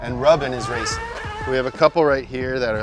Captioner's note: race car engine noises